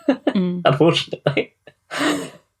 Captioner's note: laughs